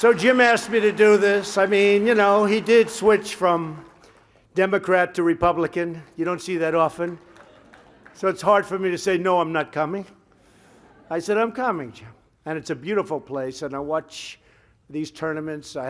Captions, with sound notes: So, Jim asked me to do this. I mean, you know, he did switch from Democrat to Republican. You don't see that often. (Laughter) So, it's hard for me to say, "No, I'm not coming." (Laughter) I said, "I'm coming, Jim." And it's a beautiful place. And I watch these tournaments.